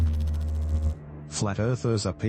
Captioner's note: electrical noise